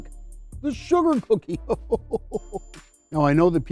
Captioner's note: chuckles